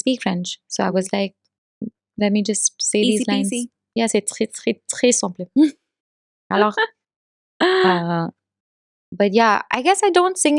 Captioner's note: speaking French